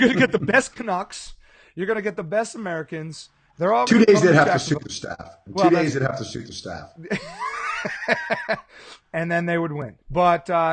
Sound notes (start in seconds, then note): 7.0 laughing